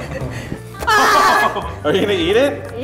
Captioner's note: all yelling